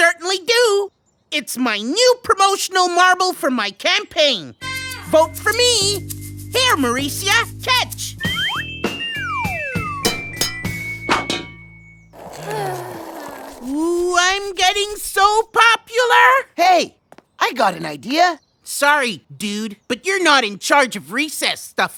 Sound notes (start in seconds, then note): 9.1 marble clanks on the drain; 12.1 bored sighs